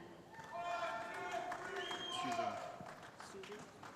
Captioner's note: voiceover